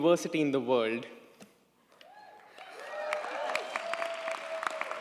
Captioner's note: audience applauds